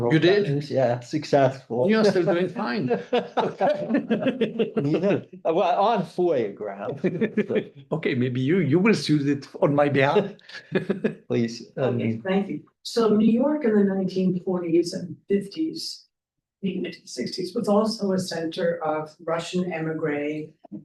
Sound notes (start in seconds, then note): 2.0 both laughing